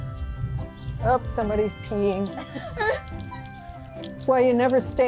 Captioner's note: all laughing